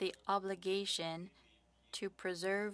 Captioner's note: speaking French